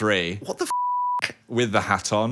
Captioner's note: beep